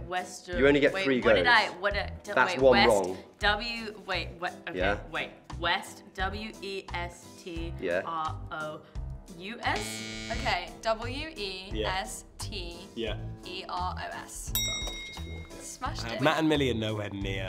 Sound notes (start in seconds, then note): 9.7 buzzer; 14.5 bell dings